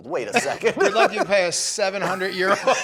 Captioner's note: laughing